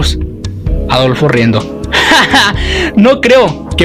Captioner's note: laughing